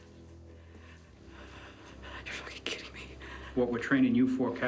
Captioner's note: whispers